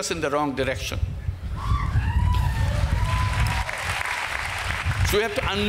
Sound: applause

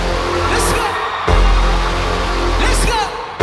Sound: upbeat music; audience applauding

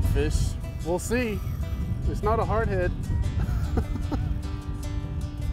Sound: laughs

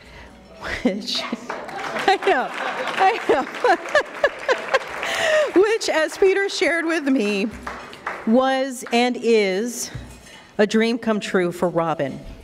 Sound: applause

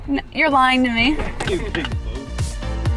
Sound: laughing

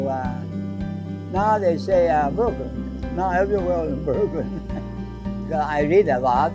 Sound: laughs

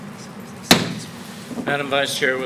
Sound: gavel bangs

